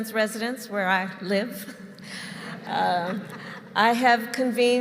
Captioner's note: laughter